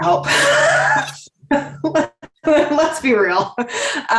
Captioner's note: laughs